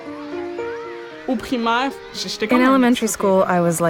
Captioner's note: speaking French with translation